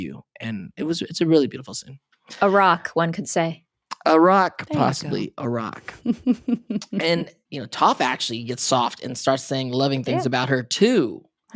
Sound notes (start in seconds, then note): 6.0 laughs